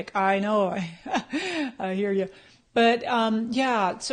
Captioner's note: laughs